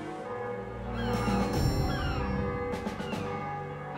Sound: bells ring

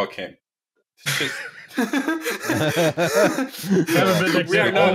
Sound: laughter

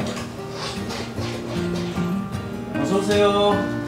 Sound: door opening

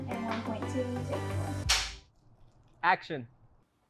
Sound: slate clacks

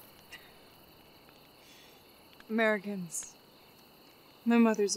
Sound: scoffs

